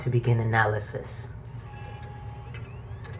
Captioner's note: device begins to whir